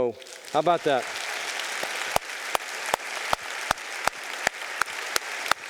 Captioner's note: audience applauding